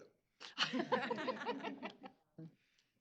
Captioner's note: laughter